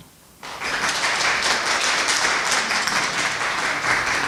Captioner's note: applause